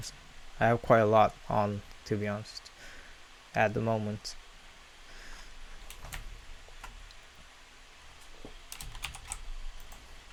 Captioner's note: programs running in the background